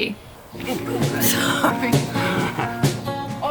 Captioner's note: laughing